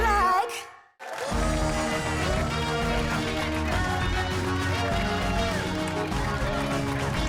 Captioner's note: cheers and applause